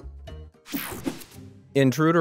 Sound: transition zapping

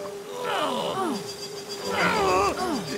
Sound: gasping

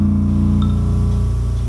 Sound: beat playing; text notification

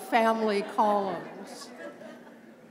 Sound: laughter

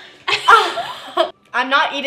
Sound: laughter

